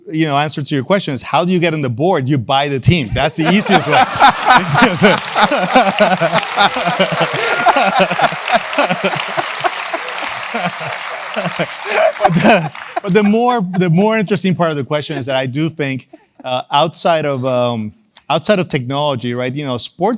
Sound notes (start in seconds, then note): 4.3 laugh